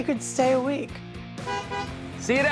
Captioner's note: horn honking